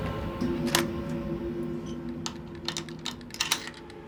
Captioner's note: locks clicking